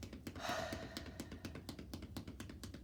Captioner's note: sighs; hands tapping